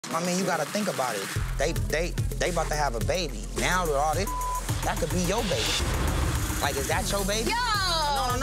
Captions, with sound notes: - I mean, you gotta think about it. They about to have a baby, now with all this (beep) that could be your baby. Like, is that your baby? - Yo!